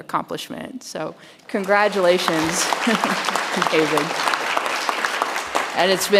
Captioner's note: audience applauds